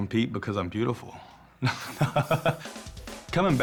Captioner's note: laughs